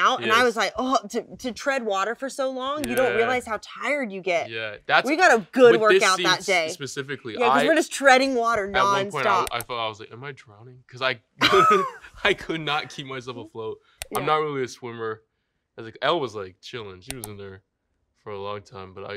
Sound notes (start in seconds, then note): 11.4 Elle laughing